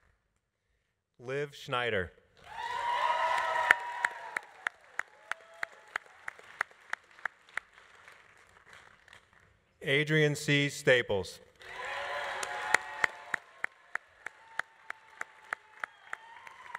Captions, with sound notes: Liv Schneider. (audience applauding) (audience cheering) Adrian C. Staples. (audience applauding) (audience cheering)